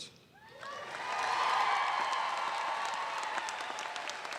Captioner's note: applause